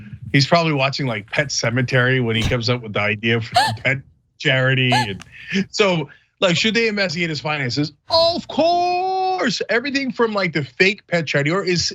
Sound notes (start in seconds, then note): 4.5 laugh